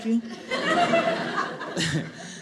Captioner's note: audience laughing